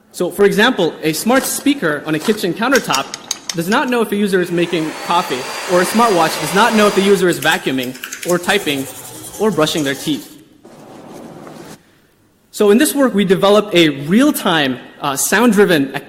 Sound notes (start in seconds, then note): 4.4 vacuum humming; 4.5 whisking; 7.9 typing clicks; 8.2 brushing